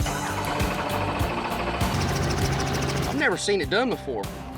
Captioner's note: helicopter starts, whirs